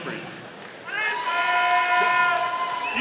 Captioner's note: audience cheering